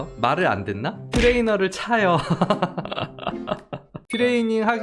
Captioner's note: laughs